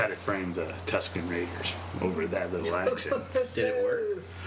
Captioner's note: laughs